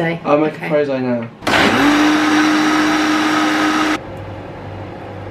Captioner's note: blender whirring; fan whooshing